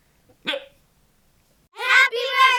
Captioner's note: hiccup